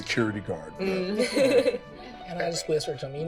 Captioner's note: laughing